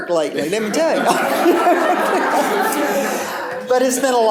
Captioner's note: laughter